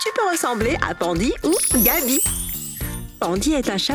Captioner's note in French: bruit de baguette magique